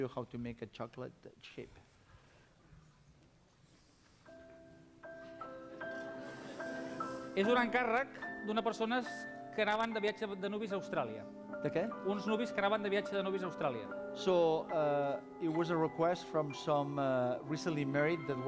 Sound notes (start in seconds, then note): 10.2 non-english speech